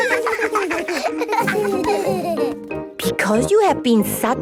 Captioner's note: laughter